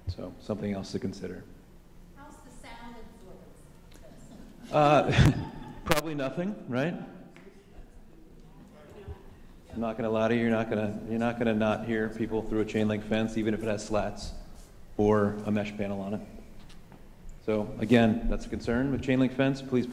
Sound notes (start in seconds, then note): 4.1 laughing